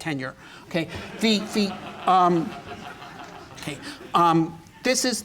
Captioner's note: laughter